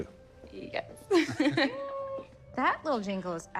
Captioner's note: chuckling